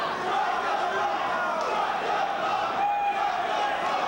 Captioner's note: crowd chanting